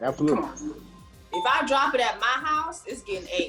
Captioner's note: bell chiming